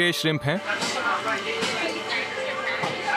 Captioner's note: tablet translating